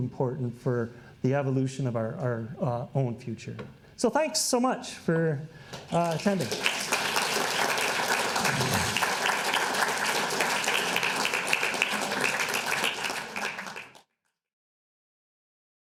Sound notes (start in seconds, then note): 5.8 audience applauding